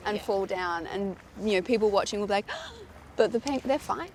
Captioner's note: gasps